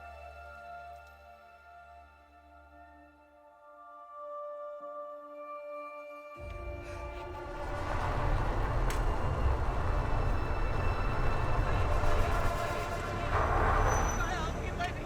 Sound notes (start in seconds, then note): 2.9 pensive music; 7.0 car engine rumbling